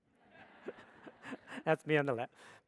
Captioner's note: audience laughs